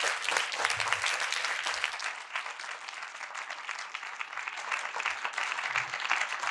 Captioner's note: audience continue applauding